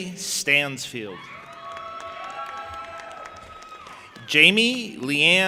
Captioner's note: audience applauding and cheering